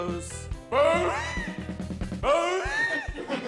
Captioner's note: brays